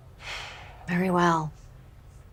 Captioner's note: sighs